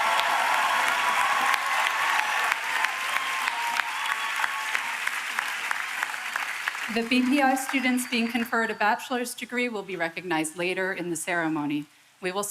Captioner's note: applause